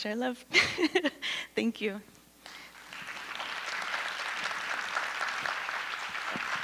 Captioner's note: audience applause